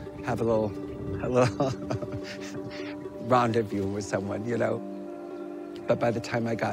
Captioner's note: chuckles